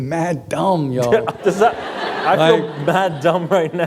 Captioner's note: laughter